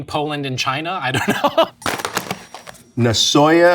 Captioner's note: laughing